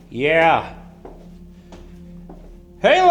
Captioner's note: shoes clacking